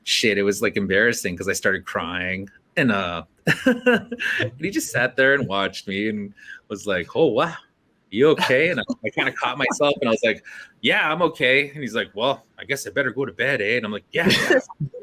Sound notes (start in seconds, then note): 3.5 laughs; 8.4 laughter